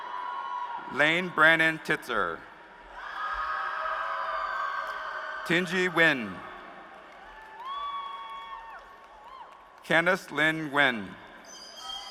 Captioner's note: applause